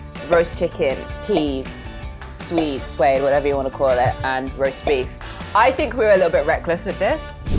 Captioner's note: none